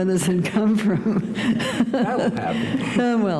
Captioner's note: chuckle